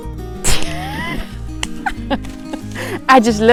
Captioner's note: laughing